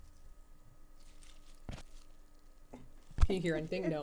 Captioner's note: salad crunching